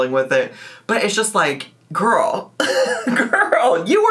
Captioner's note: laughs